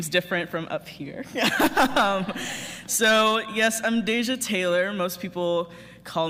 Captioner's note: laughter